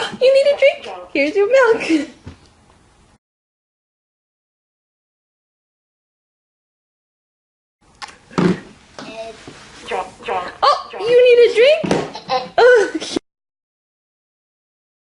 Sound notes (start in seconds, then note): 12.3 laughing